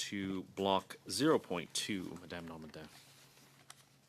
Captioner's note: speaking French